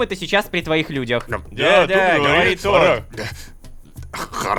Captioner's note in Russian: Возмущения толпы